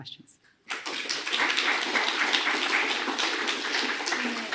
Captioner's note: applause